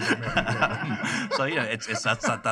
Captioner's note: laughter